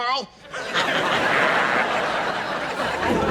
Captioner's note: laughing